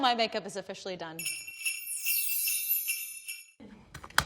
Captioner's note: sleigh bells jingling